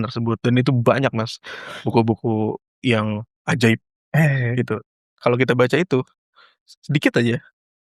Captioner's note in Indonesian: berdehem